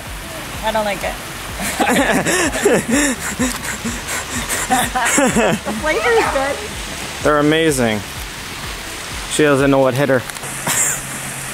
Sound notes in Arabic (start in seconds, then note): 1.6 ماكس يضحك